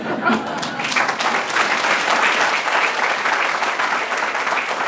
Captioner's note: applause